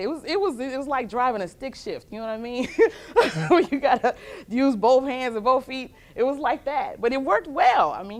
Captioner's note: laughter